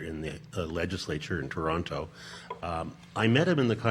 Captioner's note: none